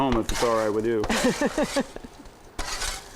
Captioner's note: laughing